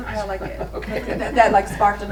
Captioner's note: laughs